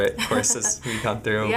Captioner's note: laughing